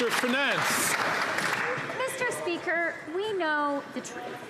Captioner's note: some Applause